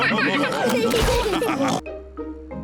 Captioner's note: all laugh